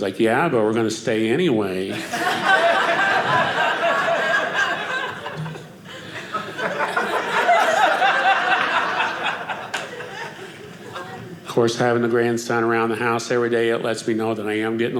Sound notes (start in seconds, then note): 1.9 audience laughing